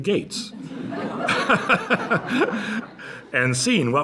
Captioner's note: laughter